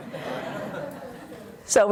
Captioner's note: audience laughs